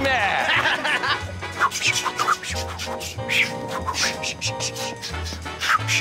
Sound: both swishing; laughs

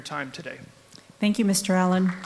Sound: applause

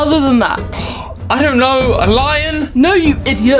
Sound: sighs

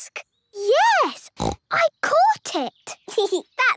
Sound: snorting; giggling

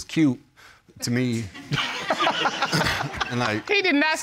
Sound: all laugh

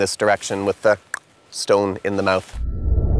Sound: clicks

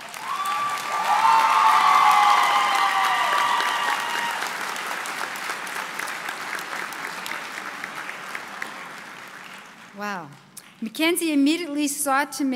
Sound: applause

